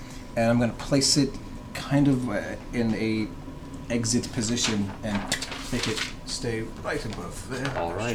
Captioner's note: clicks